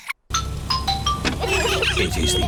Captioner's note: horns honking; trumpets